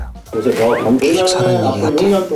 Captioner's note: swoosh